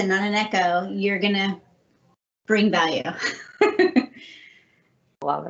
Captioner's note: laughing